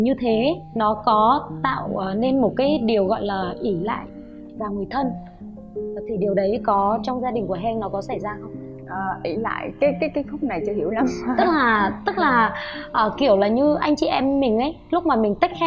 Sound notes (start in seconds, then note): 11.0 laugh